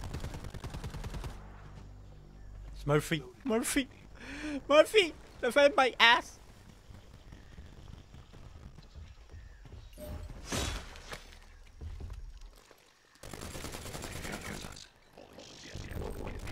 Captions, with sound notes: (guns firing) Murphy, Murphy, Murphy! They felt my ass. (guns firing)